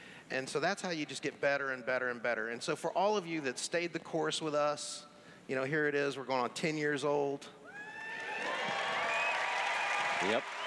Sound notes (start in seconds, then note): 7.7 cheers; 7.9 applause